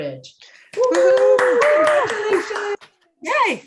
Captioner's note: cheers